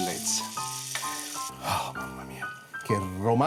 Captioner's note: gasps